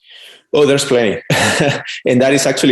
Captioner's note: laughs